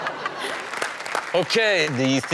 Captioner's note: Chanel laughs; audience applauds